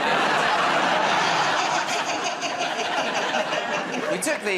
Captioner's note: laughter